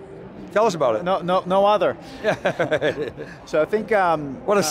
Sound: chuckles

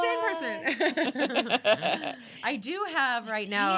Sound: laughing

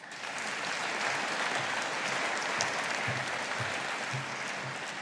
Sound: audience applauding

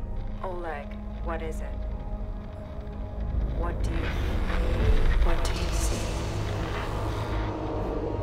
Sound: distortion

